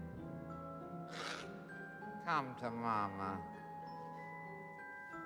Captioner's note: snarls